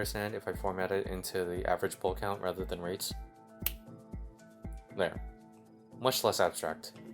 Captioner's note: snaps